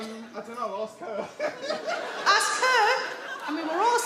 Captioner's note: laughs